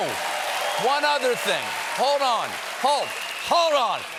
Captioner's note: cheers and applause